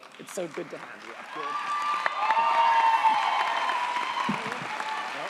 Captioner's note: audience applauds & cheers